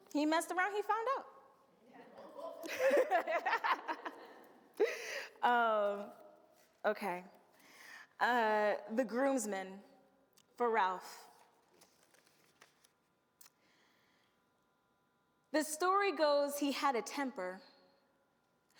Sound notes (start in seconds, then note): 2.2 laughs